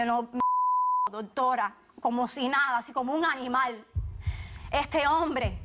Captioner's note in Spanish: Bip